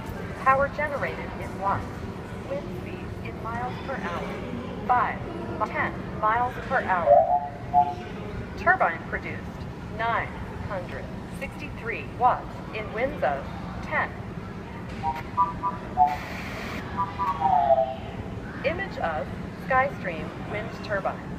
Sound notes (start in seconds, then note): 7.0 high pitched tone; 15.1 high pitched tones and static